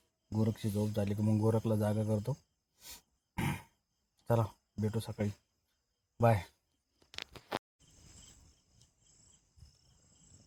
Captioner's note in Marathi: घसा साफ करणे